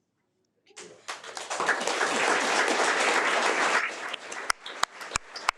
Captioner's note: audience applauding